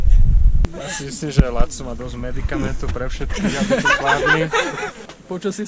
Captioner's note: laughter